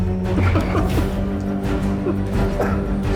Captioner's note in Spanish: Risas